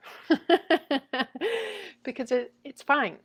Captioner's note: laughs